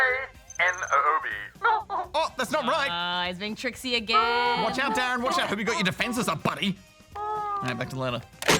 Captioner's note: laughs